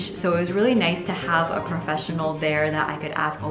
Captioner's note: none